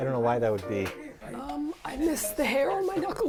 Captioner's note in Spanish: Voz de anciana quejumbrosa